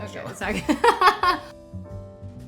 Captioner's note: laughing; soft jazz music